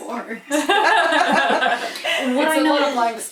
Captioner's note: laughter